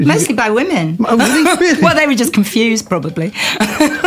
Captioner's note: laughter